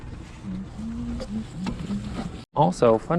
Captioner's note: humming